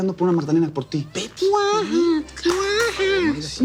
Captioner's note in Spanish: Imita el llanto de un bebé